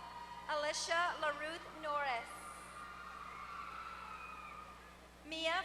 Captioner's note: applause